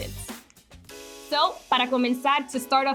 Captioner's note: speaking foreign language